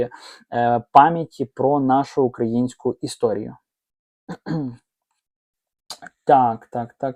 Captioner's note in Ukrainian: прочищення горла